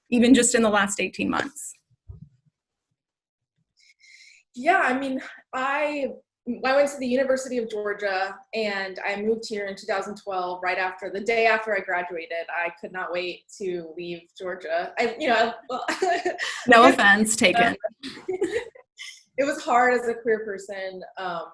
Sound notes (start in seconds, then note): 16.5 laughing